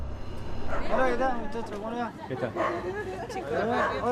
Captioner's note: speaking Spanish